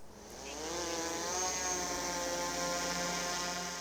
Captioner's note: drone buzzing